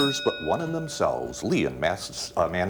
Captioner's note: ding